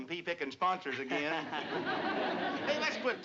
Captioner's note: laughter